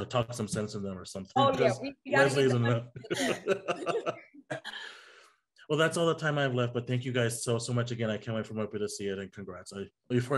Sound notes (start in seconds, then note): 2.1 laughs